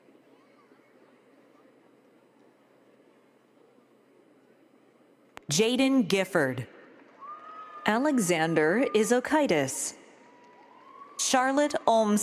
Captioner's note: applause